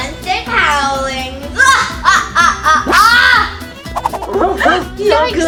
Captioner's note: evil laughter